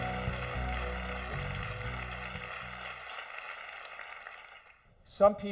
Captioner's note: applause